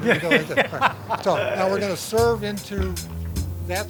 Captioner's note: laughter